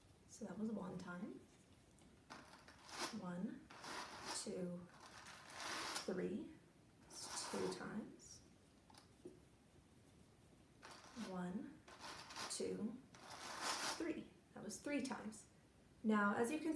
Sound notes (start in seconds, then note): 3.1 counting to three with sound of brushing cotton; 10.8 counting to three again with sound of brushing cotton